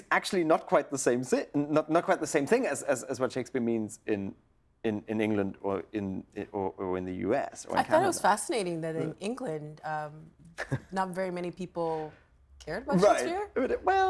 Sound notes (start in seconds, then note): 10.6 chuckles